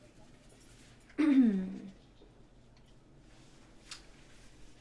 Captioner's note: Gabrielle clears throat